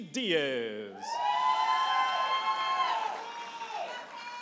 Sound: audience applauding and cheering

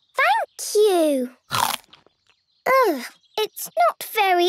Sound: crunch!

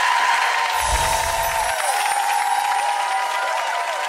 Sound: audience applauds and cheers; glistening sound

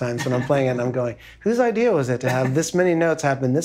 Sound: laughing

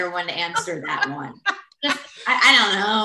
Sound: laughs

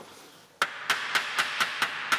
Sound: hammering

